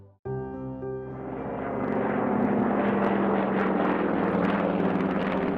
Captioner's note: dramatic, somber music; airplane engines droning